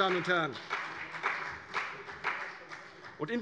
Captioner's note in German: Vereinzelter Beifall CDU